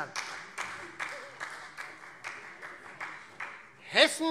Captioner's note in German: Beifall Freie Demokraten